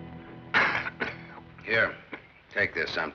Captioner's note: coughing